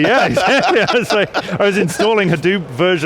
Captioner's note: laughs